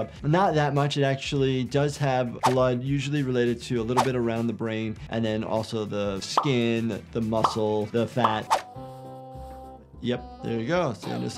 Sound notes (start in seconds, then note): 3.4 brain whooshes; 8.3 graphic whooshes; 9.1 playful music